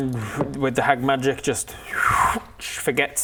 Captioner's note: zwoooph